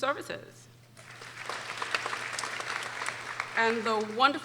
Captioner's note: people applauding